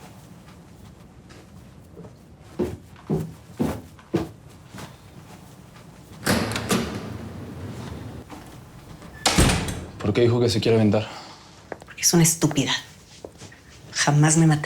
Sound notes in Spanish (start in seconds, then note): 6.2 Sonido de la puerta